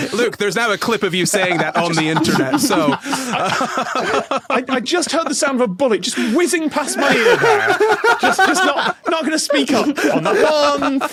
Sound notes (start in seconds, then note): 1.2 laugh